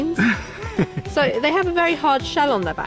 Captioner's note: laughing